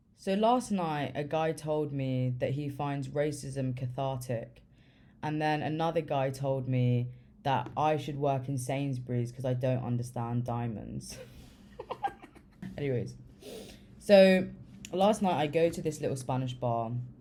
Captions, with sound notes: So last night a guy told me that he finds racism "cathartic", and then another guy told me that, I should work in Sainsbury's because I don't understand diamonds, (laughing) Anyways, so last night, I go to this little spanish bar